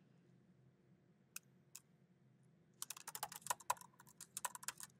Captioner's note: keyboard clacking